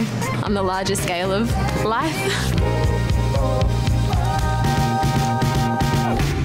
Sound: chuckles

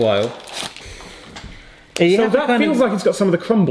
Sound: sniffs

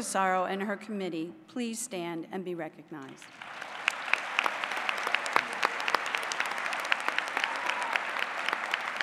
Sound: applause

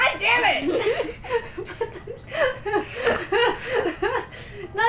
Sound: laughter

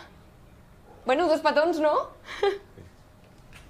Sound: laughs

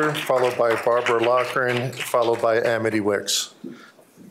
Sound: applause

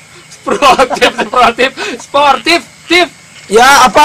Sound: laughs

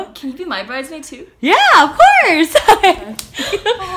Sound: laughs

